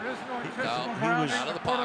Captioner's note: pa announcement